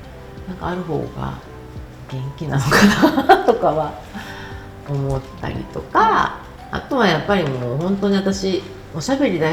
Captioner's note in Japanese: 笑い